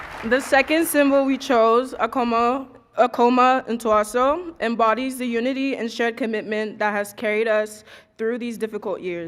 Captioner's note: cheers and applause